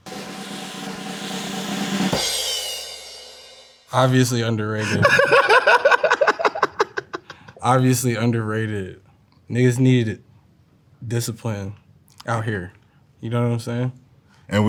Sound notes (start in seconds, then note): 0.0 cymbals crash; 0.0 drum rolls; 4.8 laughing